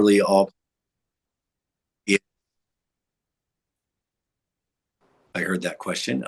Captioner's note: audio cuts out